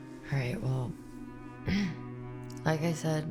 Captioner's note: clears throat